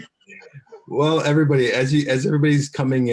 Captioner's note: laughs